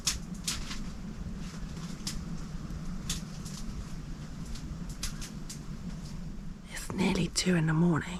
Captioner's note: cracking twigs